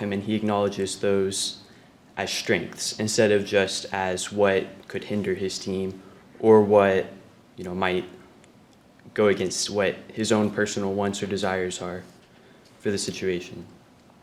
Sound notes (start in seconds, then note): none